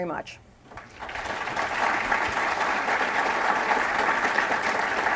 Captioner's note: applause